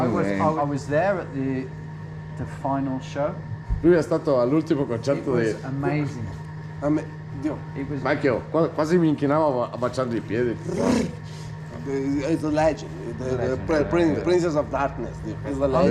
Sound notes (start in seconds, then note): 3.9 man speaking in Italian; 6.9 man speaking in Italian